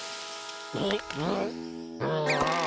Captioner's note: groans; gagging